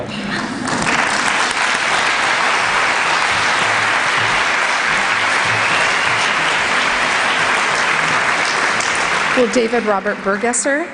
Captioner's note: applause